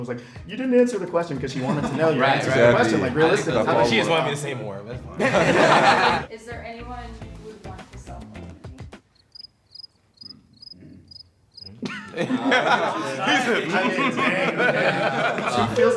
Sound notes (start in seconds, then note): 5.2 laughing; 9.1 crickets; 11.6 laughing